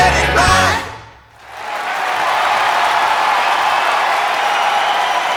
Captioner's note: crowd cheering and clapping